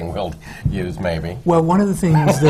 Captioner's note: laughter